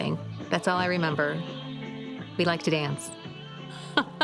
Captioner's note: laughing